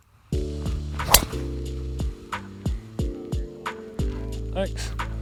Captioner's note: jazz music; golf club whacking